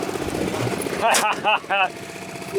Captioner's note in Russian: смех